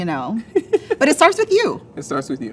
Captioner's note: laughs